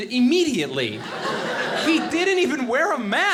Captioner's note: audience laughing